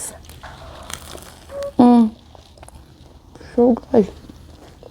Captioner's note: toast crunches